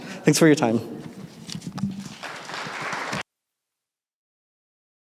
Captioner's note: applause